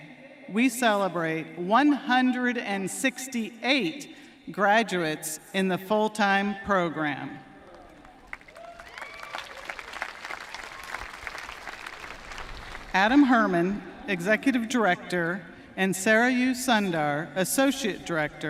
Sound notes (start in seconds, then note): 10.3 applause